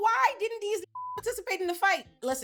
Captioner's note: beep